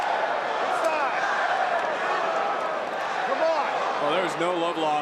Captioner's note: crowd cheers